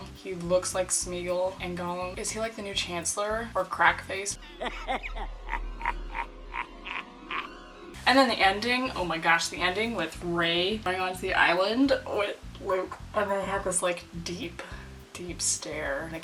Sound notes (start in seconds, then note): 4.4 evil laughing